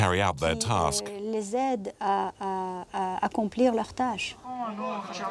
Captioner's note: French spoken audio